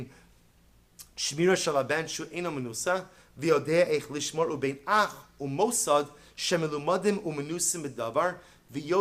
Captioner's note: Hebrew